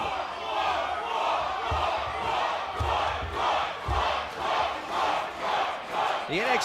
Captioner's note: fans chanting